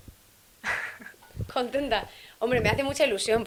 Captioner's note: laughs